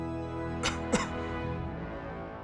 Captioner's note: cough